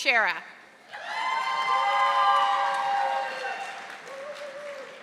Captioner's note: audience applauding